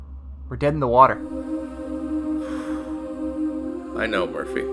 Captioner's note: sighs